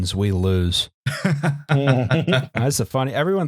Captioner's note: laughter